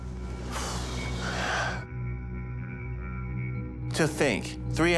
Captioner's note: breathes deeply